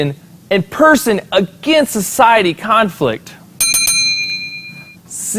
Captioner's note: bell sound